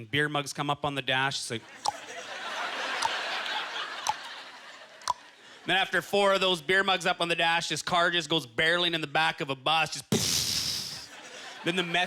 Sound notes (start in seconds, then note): 2.3 tongue clacking